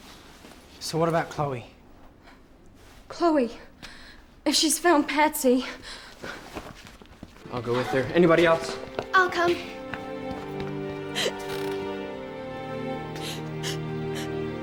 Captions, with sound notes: - So what about Chloe? - Chloe, if she's found Patsy... - I'll go with her, anybody else? - I'll come. (crying)